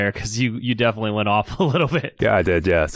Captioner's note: laughs